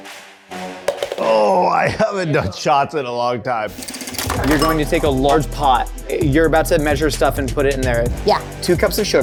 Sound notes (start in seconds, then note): 0.8 cup flips